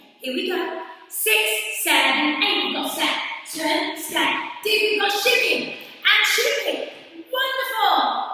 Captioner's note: counting 6 7 8